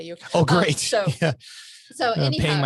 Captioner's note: laughs